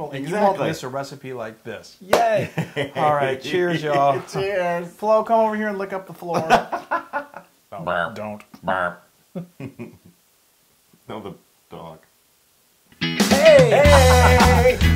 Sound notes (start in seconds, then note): 6.3 laugh